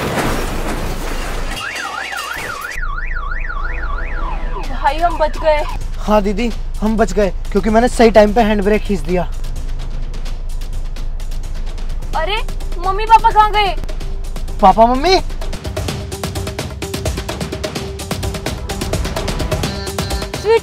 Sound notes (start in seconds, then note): 0.0 car crashed; 1.4 car alarming